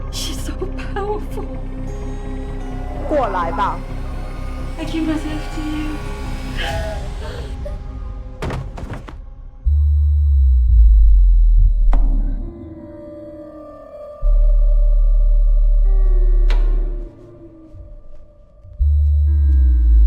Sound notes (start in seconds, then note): 3.8 Mandarin language; 6.5 Sakura distressed groan; 8.4 heavy thud on timber floor